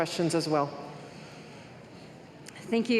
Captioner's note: none